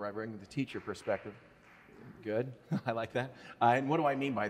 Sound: audience member applauds

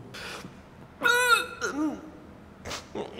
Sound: hurls

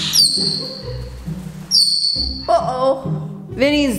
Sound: Vinny chirping; mischievous music

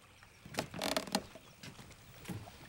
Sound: floor creaks

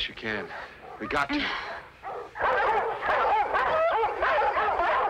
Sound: dogs barking

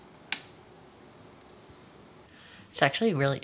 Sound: lamp snapping on

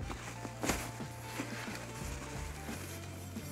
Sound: cloth fuzzing

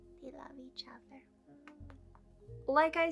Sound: kissing noises

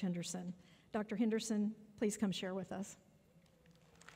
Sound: applause

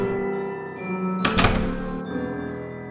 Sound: door opens; door closes

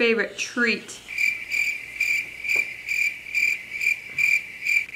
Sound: crickets chirping

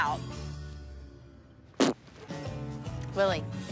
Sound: raspberries

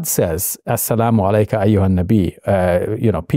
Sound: Shabir speaking Arabic

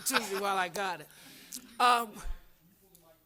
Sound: laughter

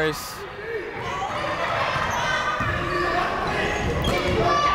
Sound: people shouting in the crowd

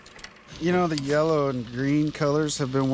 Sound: boat engine idling

